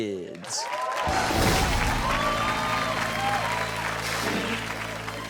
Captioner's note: audience applauding